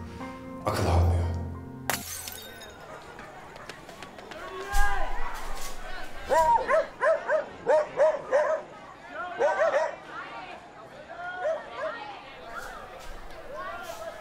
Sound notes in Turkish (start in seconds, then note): 1.8 cam kirilma sesi̇; 3.0 köpek havlamalari ve huzursuz edi̇ci̇, kalabalik sokak sesi̇